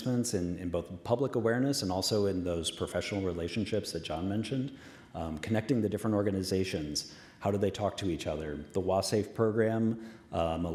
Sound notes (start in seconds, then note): none